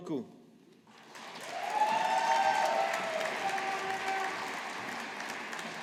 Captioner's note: audience applauding